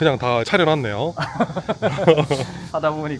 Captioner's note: laughs